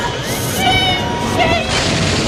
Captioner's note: sound of an approaching missile; flapping wings, followed by bestial panting; sound of an approaching missile; flapping wings, followed by bestial panting; sound of an crashing missile